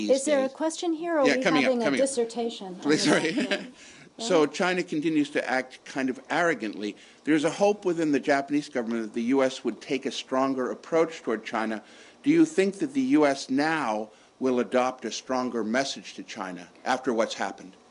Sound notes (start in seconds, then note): 4.7 laughter